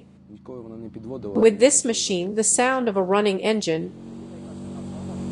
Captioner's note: the sound of a running engine